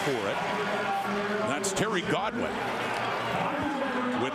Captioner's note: crowd Noise